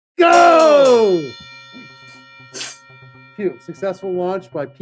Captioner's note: bell ringing